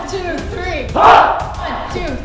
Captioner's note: shouts